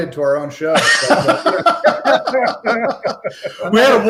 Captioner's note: laughs